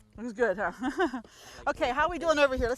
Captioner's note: laughing